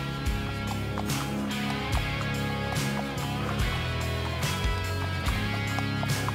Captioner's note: horse hooves clop; western music continues